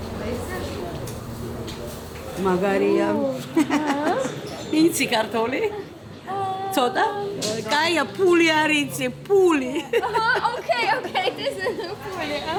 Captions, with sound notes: Nice. [in Georgian] [speaking Georgian] Okay, okay …